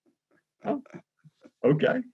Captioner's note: laughs